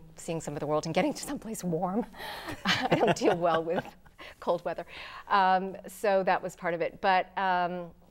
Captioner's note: laughing